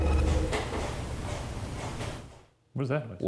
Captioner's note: object rasping